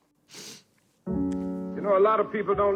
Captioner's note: sniffling; plaintive music